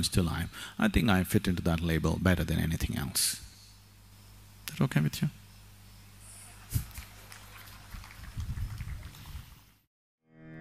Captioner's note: laughter/Applause; 笑聲/掌聲